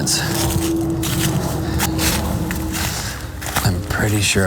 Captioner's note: footsteps trudging